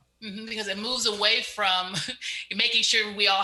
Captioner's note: chuckles